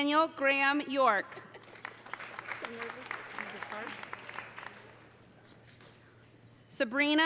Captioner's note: audience cheering; audience applauding